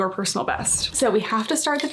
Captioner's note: graphic whooshing